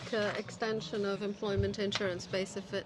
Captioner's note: speaking French